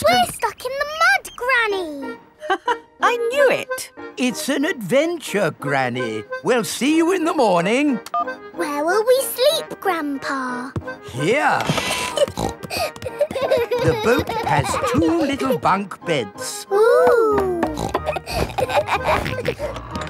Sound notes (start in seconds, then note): 2.7 laughs; 11.6 snorting; 12.8 kids giggling; 17.6 snorts, laughs